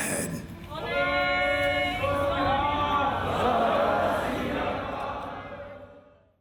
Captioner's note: call and response chanting